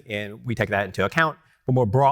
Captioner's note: none